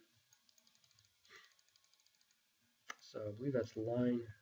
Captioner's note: mouse clicking